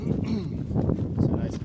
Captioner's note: clearing throat grunt